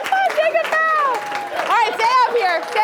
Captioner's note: clapping